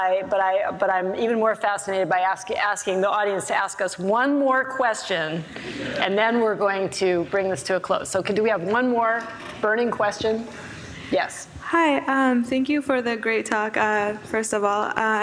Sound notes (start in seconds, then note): 5.5 audience laughs